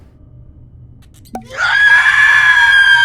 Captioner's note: cork pops; loud screaming